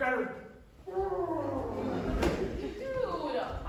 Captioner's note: muffled scream